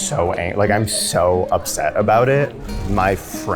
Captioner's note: none